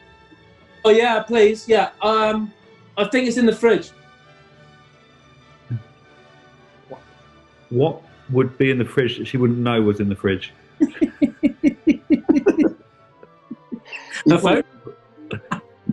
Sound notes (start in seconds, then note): 10.8 giggling